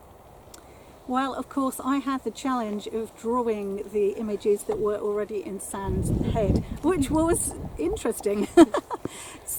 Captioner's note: laughing